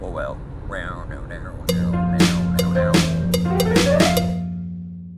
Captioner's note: humming